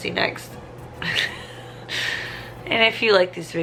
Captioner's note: laughing